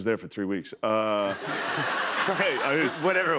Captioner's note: laughter